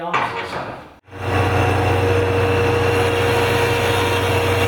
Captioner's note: machine rumbling